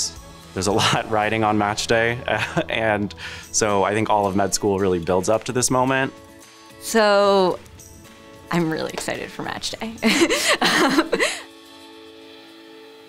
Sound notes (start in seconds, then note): 10.0 laughs